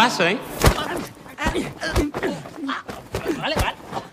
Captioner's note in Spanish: Golpes